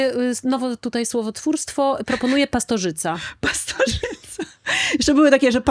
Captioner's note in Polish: śmiech